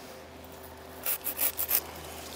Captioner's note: sawing noises